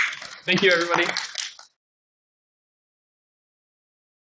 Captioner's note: applauding